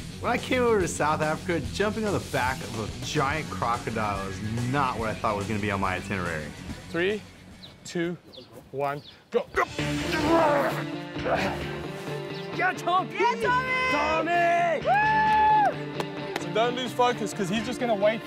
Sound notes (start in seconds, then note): 13.5 cheering